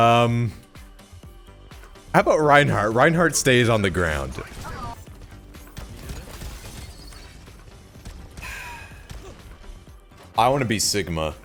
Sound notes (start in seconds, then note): 8.4 sigh